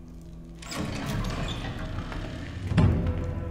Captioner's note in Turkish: Kapı Sesi